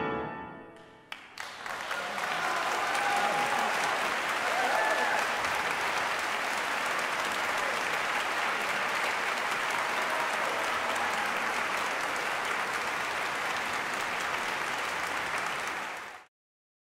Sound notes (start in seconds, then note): 1.2 applause